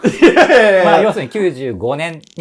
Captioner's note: laughing